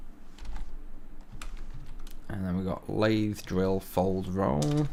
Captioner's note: falls